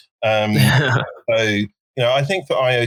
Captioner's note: laughing